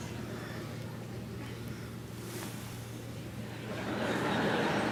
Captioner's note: audience muttering; audience laughing